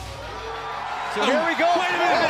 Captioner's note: cheers & boos